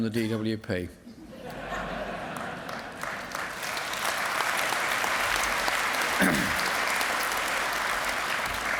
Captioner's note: laughter and applause